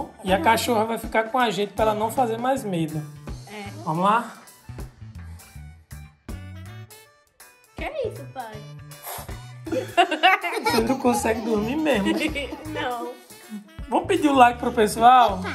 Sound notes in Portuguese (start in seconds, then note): 4.5 Música ao fundo; 9.6 Risadas ao fundo